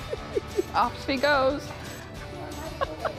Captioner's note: laughs